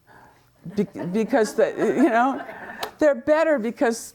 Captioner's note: students laughing